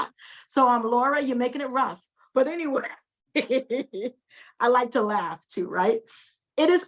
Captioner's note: chuckles